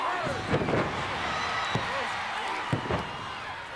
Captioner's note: bodies thud; body thuds